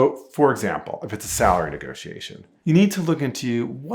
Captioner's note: air whooshing